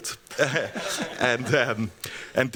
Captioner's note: laughing; laughs